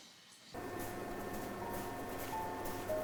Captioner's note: snow Crunching